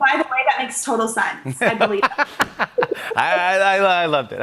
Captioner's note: both laugh